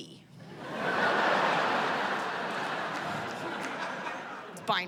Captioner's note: laughter